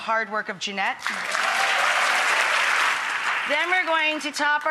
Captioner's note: audience applauds